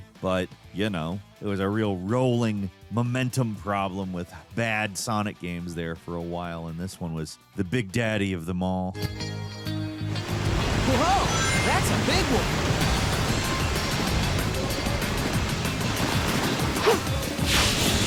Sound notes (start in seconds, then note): 8.6 soft bright music; 10.3 water rushing; 12.6 upbeat bright music; 13.0 water splashing